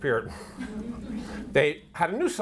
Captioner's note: audience laughter